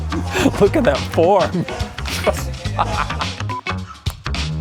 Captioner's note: laughs